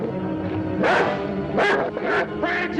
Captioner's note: dog barking